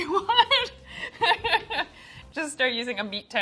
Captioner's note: laughing